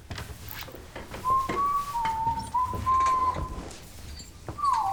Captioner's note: Greg whistling